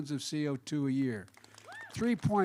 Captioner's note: applause